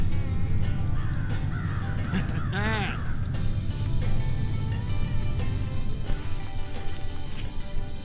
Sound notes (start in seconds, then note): 1.7 laughing